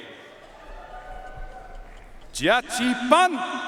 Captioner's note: audience cheering and applauding